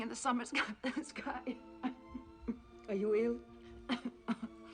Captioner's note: coughing